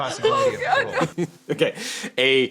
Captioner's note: chuckles